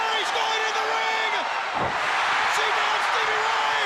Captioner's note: crowd cheering